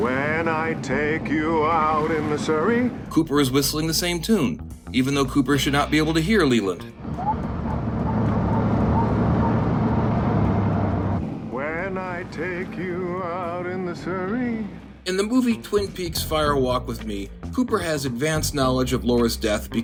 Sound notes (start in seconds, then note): 0.6 singing; 7.1 whistling; 12.2 singing